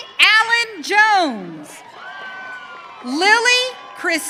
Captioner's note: audience cheering